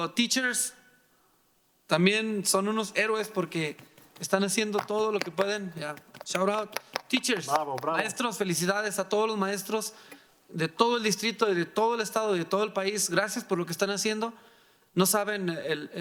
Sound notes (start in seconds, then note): 1.4 speaking in foreign language; 5.0 mariachi band applauding